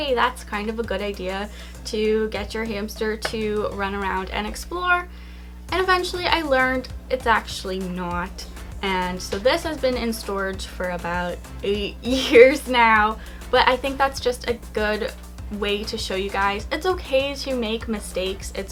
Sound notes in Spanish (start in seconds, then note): 12.1 ríe